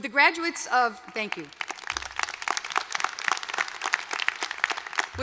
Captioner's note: applause